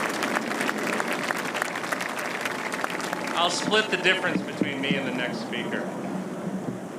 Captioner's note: applause